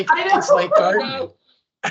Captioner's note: laughing